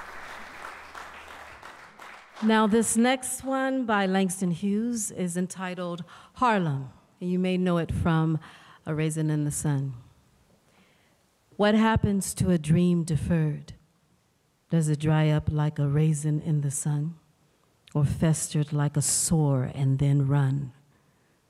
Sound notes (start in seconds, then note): 0.0 applause